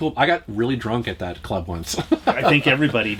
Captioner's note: laughs